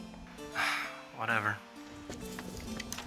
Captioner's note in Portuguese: Marcus suspira